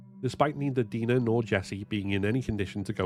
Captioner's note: none